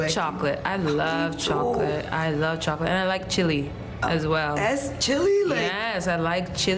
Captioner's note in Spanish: habla en ingés